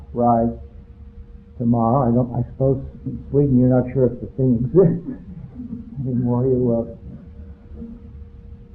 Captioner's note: chuckles